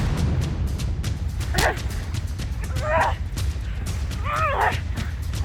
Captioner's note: grunting